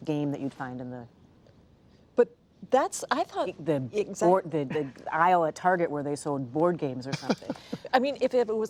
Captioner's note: laughter